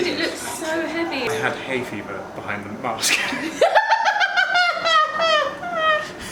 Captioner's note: laughs